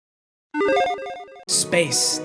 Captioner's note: electronic tones chiming